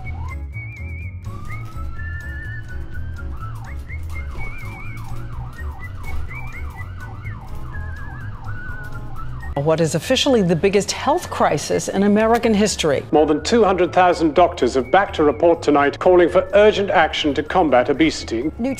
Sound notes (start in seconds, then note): 0.1 playful music; 2.7 ambulance sirens wailing